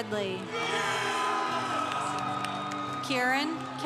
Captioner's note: congregation cheering